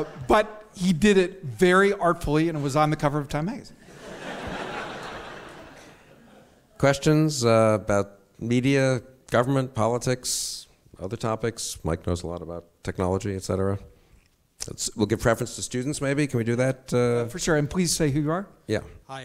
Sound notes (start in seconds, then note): 3.8 audience laughs